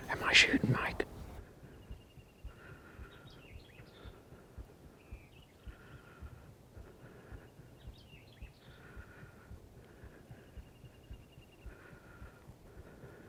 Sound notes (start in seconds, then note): 3.6 birds chirping